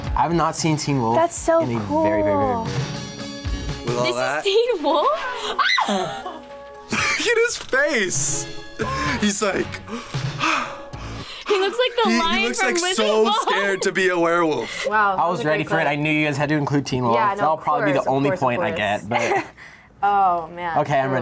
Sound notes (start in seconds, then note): 5.5 screams; 8.7 gasps